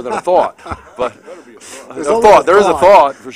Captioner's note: laughter